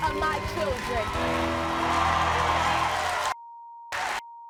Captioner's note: crowd cheering